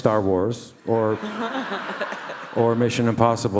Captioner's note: all laugh